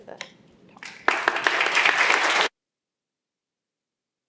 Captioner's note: applause